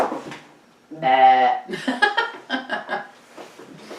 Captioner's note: laughs